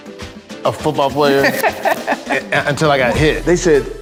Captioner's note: Cameron laughing